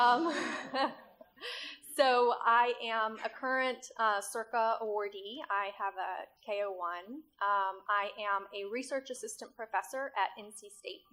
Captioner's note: laughter